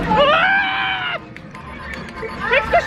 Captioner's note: screams